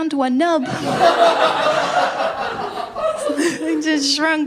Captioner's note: laughter